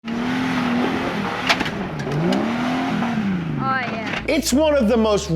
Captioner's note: engine roaring